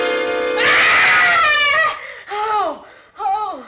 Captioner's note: scream